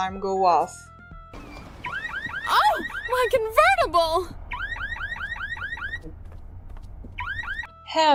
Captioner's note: car alarm